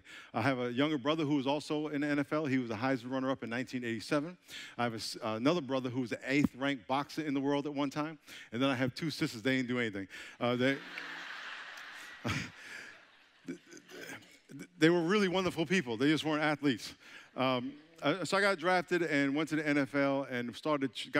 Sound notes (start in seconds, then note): 10.4 audience laughing